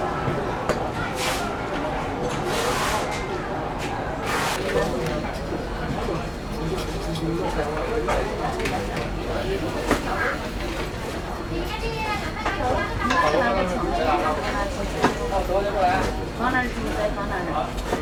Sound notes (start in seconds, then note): 4.6 indistinct chatter; 11.9 speaking in Mandarin